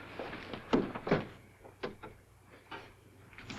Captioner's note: door clatters open